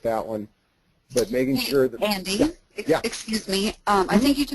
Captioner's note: voiceover